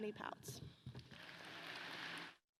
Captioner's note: applause